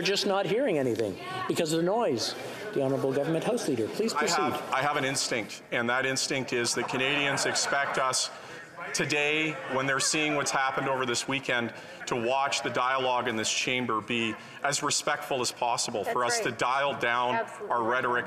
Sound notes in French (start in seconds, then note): 10.6 voix de l'interprète